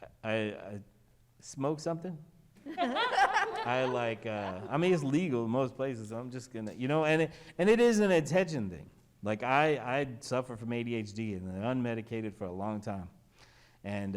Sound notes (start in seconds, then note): 2.7 panel laughs